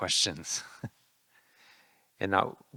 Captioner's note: laughing